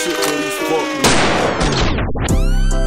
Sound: gunshot

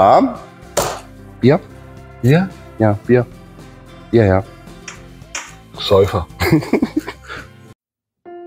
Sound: laughing

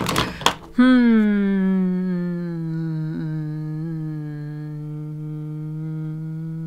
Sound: very long drawn out thinking sound

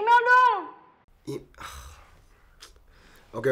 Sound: sighing

